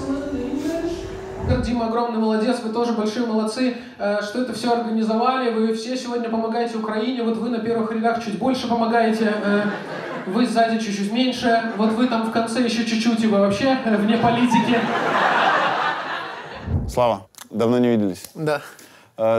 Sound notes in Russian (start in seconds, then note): 9.3 зрительский смех; 14.2 зрительский смех